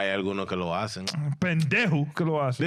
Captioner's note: speaking In Foreign Language